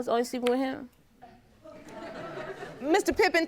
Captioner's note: audience laughs